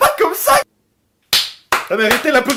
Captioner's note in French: Clap, clap, clap